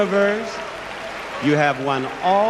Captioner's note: crowd applauding